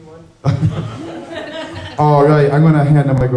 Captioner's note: chuckles